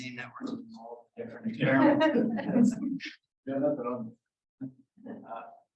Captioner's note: laughter